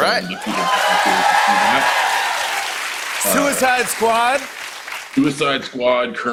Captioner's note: cheers and applause